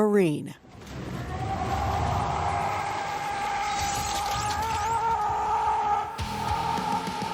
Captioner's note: yelling; rock music